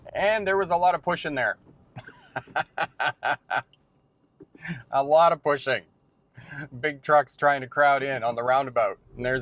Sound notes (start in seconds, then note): 1.9 laughing